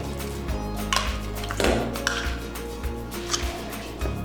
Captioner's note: spoon scraping; bright upbeat music continues